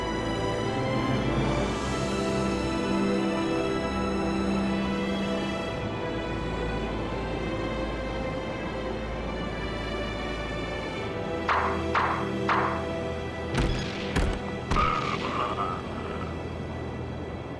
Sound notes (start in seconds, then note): 13.6 air gun popping